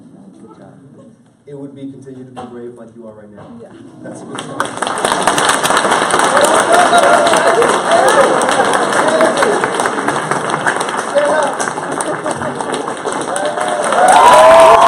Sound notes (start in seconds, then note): 3.3 applause; 9.0 cheering